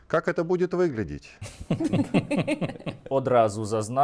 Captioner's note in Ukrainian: сміх